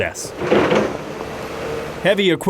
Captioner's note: construction equipment starting